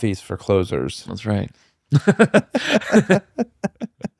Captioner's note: laughter